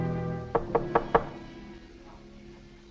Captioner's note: door knocking